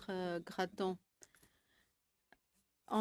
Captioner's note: speaking French